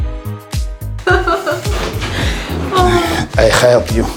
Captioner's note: laughing